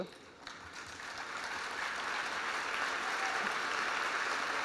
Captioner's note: applause